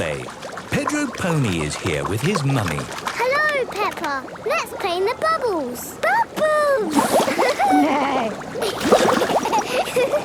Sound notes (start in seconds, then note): 7.2 giggling; 7.4 giggling, neighing